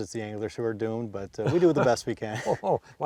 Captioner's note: laughs